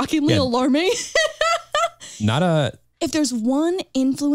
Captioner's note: chuckles